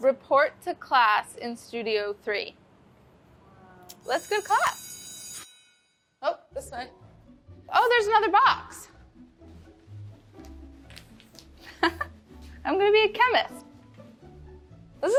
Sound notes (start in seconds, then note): 4.0 school bell rings; 6.7 melodic music; 11.6 laughs